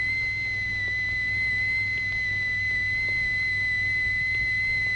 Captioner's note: machine whistling